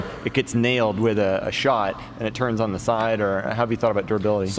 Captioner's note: chuckles